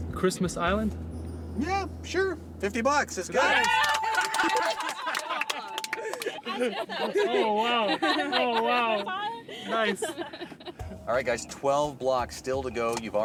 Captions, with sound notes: Christmas Island. Yeah, sure, 50 bucks. (Bells) Oh wow! Oh wow! Nice! Alright guys, 12 blocks still to go,